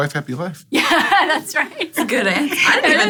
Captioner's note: laughter